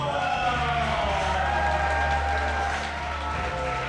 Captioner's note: crowd cheering